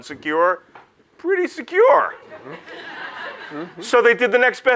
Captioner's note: audience laughs